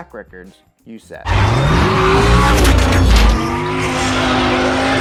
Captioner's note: car engine roaring